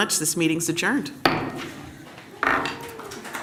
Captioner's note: gavel